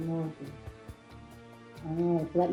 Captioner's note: woman2 speaking